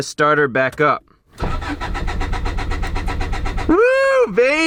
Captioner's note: engine cranks